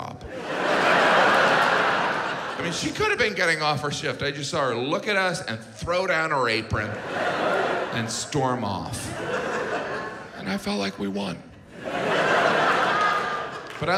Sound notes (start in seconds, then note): 0.2 audience laughs; 6.7 audience laughs